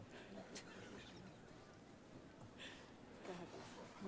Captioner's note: laughing